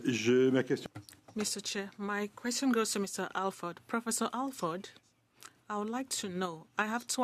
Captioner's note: speaking French